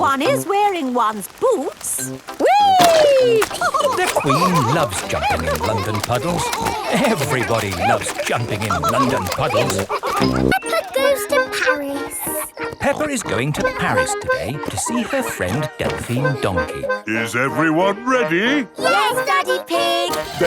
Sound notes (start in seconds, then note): 3.3 all laughing